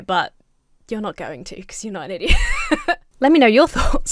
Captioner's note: laughs